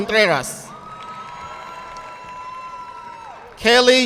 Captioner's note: audience clapping